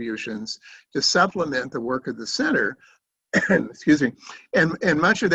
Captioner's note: coughs